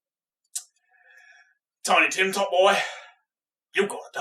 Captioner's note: intake of breath